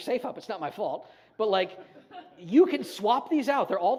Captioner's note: audience chuckles